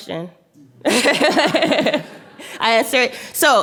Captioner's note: laughing